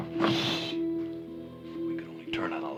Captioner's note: shushing